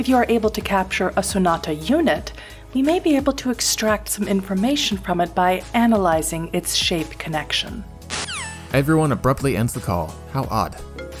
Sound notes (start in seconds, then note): 8.1 phone disconnects